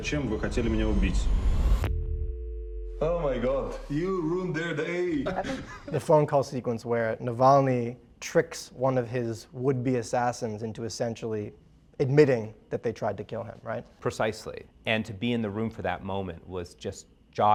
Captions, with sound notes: (dial tone beeps) - Oh my God. - You ruined their day. (Alexei laughs) - The phone call sequence where Navalny tricks one of his would-be assassins into essentially admitting that they tried to kill him, right? - Precisely. And to be in the room for that moment